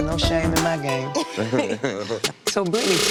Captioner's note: laughing